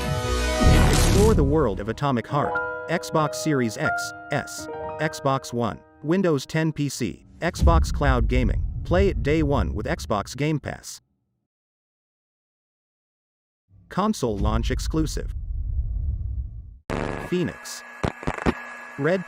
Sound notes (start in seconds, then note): 2.4 sentimental piano music playing; 7.2 dramatic sound; 14.1 dramatic sound